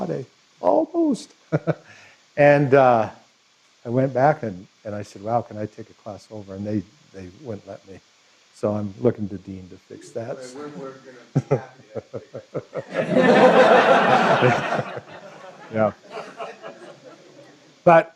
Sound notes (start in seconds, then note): 13.4 laughter